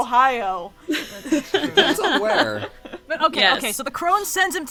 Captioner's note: laughs